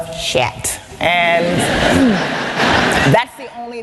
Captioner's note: laughter